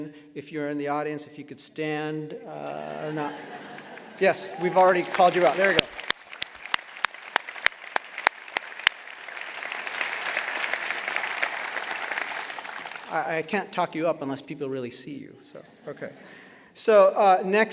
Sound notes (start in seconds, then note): 6.6 applause; 15.5 laughter